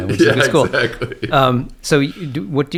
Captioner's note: laughs